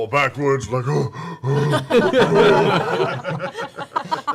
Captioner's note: laughter